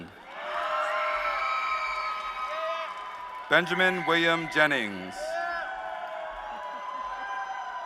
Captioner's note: applause